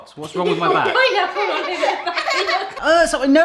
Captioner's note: laughing